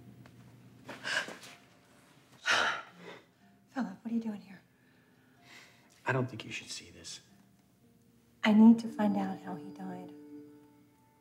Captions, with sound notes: (Anna gasps) - Sorry. (Anna sighs) - Philip, what are you doing here? - I don't think you should see this. - I need to find out how he died.